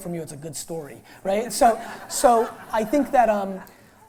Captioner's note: laughter